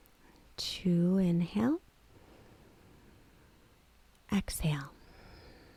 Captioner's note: inhales